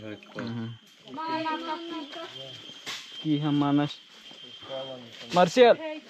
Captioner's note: speaking in foreign language